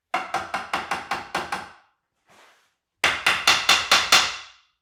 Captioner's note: hammer clacking